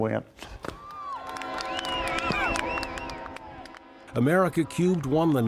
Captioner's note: crowd cheering